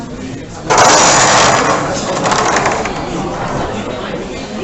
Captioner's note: screechy door sound